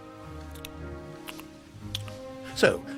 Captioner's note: chewing